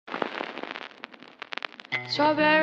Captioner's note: static